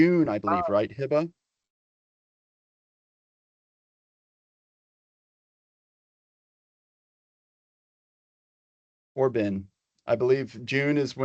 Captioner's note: pause